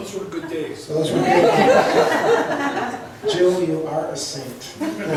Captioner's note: laughs